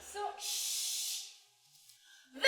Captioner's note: shushes